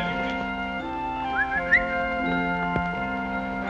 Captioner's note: whistling